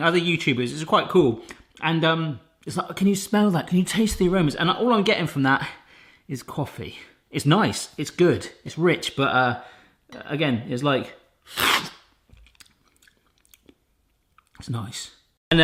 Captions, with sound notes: other YouTubers, it was quite cool. And, can you smell that, can you taste the aromas, and all I'm getting from that, is coffee. It's nice, it's good, it's rich. But, again, it's like. (slurping) It's nice.